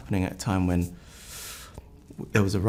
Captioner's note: inhales